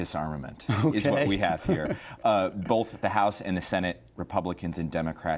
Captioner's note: laughter